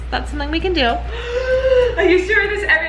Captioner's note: gasping